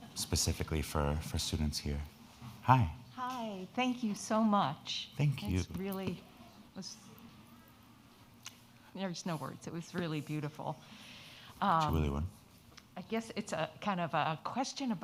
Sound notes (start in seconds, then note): 11.7 speaking in foreign language